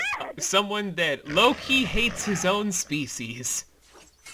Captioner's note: loud snarl